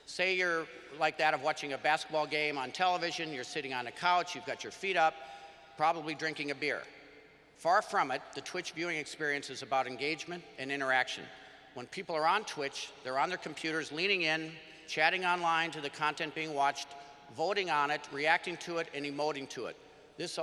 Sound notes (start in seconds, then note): none